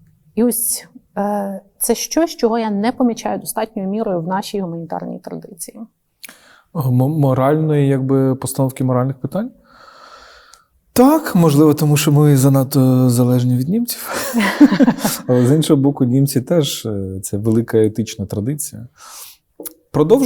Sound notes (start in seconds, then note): 14.1 both laugh